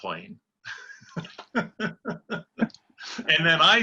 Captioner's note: laughter